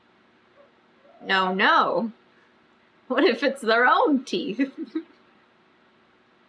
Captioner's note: laughs